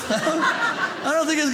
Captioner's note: audience laughing